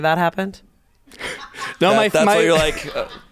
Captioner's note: crew laughs